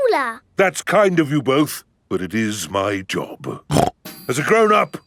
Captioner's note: snorts